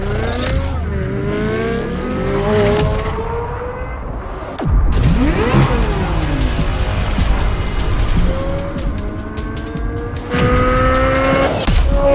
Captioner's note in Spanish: engine sounds